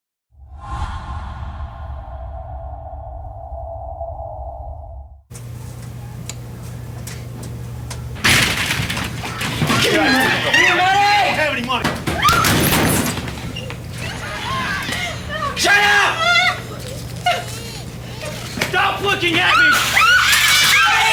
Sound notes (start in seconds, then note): 11.9 woman yells; 14.0 woman crying; 19.6 baby crying